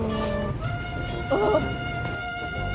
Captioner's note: groans in frustration